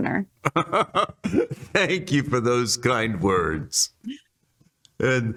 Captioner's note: laughs